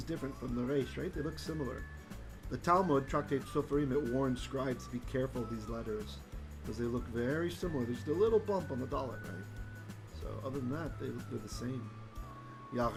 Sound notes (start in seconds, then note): 8.7 Hebrew; 12.7 Hebrew